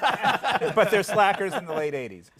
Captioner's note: laughter